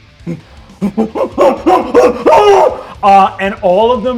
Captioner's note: mimics panicked screams